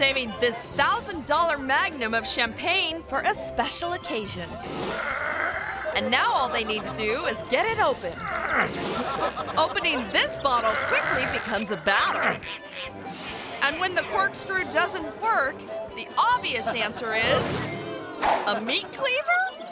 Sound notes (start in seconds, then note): 4.7 groom grunts; 8.2 groom grunts; 8.3 crowd laughing; 12.3 corkscrew squeaks